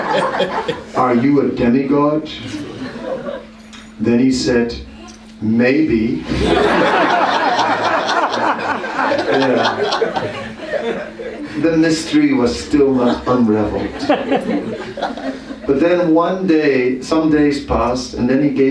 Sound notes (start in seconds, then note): 0.0 laughter; 9.1 laughter